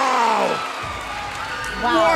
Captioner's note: bell ringing